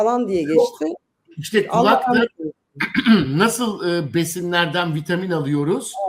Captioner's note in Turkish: boğazını temizler